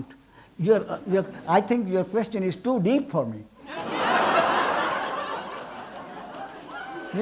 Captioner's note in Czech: smích